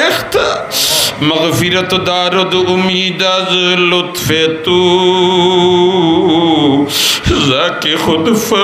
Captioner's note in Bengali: হাসি